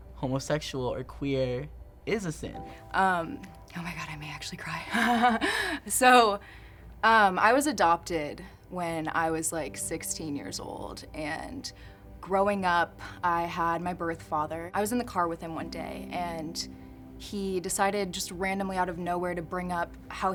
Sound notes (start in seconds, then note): 4.8 laughs